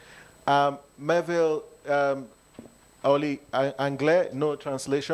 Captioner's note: speaks in French